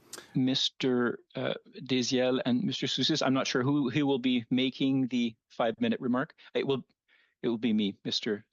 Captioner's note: speaking French